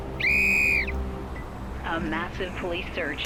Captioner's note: whistle blowing